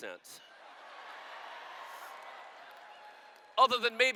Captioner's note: laughter